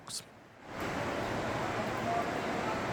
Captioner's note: sound of rushing water